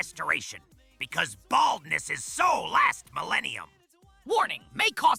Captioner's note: triumphant shout; quickly, like reading fine print